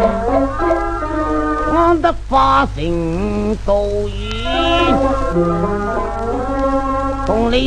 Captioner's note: cuckoo